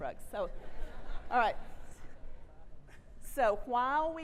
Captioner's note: audience laughs